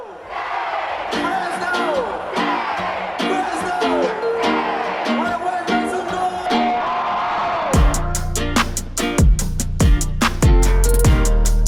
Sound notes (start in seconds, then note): 7.3 crowd cheering; 7.7 energetic upbeat music